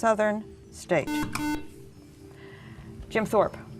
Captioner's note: buzzer